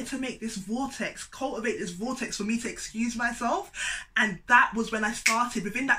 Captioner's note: click